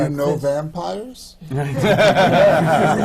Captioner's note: laughter